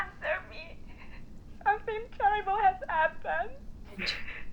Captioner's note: sobbing